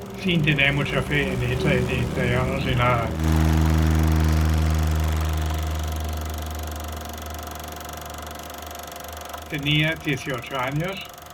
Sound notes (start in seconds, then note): 4.0 plane sounds; 6.8 old projector sound